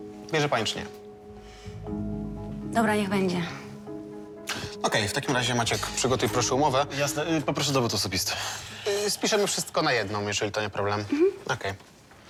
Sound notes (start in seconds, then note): none